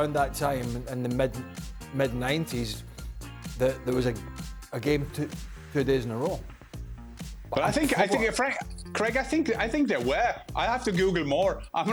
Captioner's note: laughter